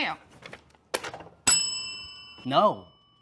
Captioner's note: bell ringing